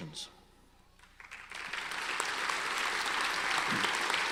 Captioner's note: audience applauds